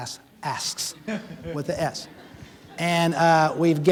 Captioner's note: audience laughing